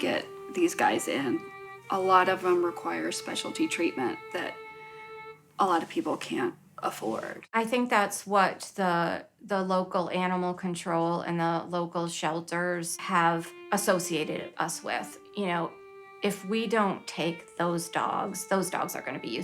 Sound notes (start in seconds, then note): none